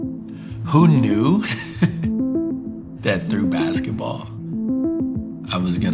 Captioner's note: laughs